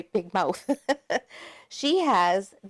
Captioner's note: laughing